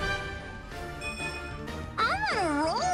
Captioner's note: Fire Emblem stat gain sound